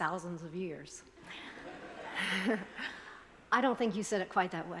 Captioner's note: attendees laughing